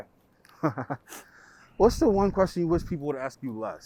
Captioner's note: laughs